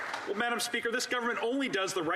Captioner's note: applause